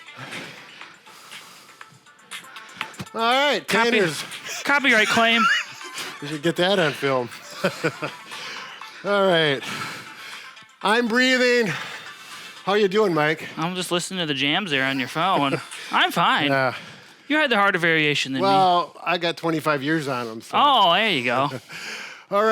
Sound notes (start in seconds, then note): 0.1 upbeat music; 3.7 laughs